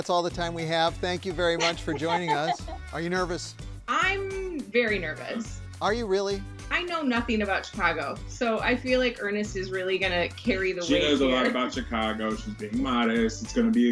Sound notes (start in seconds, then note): 1.5 laughing